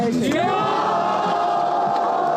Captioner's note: cheering